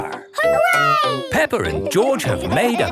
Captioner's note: laughing